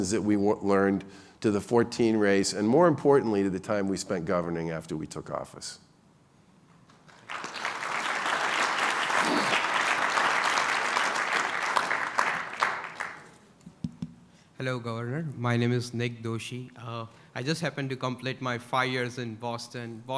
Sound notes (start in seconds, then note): 6.8 applause